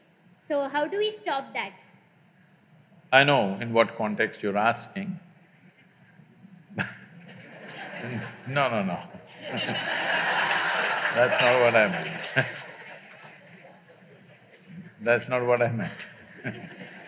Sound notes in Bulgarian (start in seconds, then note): 6.7 смее се; 12.9 смее се; 13.9 смях; 15.8 смее се